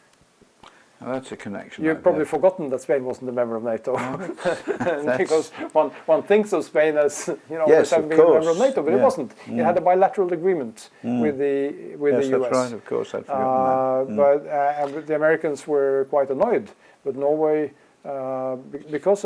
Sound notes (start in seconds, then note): 3.8 laugh